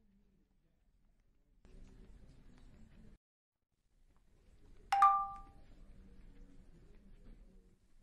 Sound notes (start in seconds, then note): 4.9 notification alert